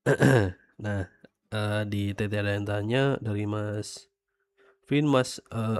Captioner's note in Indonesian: berdehem